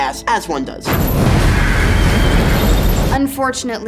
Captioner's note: monstrous screeching, fire roaring